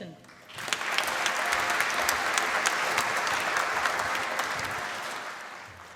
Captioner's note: applause